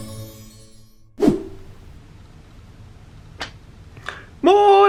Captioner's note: screen wipe whooshes